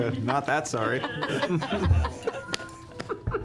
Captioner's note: laughter